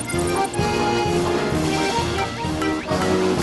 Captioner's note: plink! Plink! Plink! Plink!